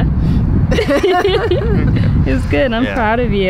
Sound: laugh

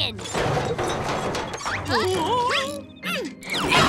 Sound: grunting

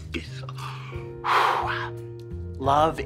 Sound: exhales

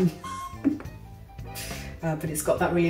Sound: laughs

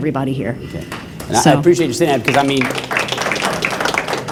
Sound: applause

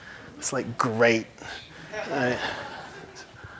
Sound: laughter

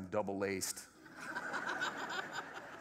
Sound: laughter

